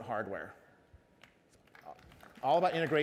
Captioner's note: applause